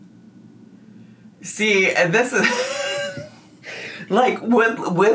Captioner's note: laughs